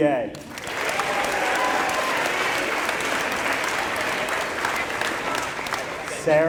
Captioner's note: applause